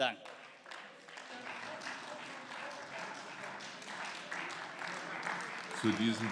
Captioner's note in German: Beifall